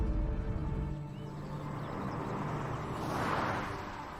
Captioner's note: birds chirping